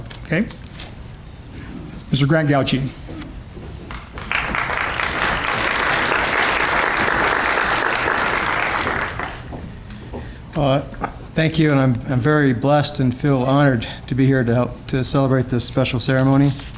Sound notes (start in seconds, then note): 3.9 applause